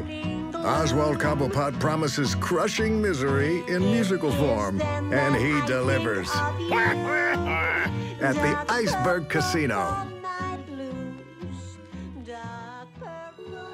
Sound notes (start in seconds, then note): 6.6 quacking laughter